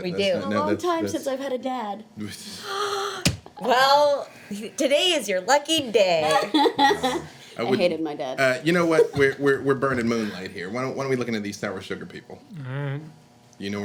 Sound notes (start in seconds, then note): 2.5 gasping; 6.2 laughing